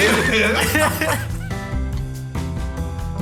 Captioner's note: laughter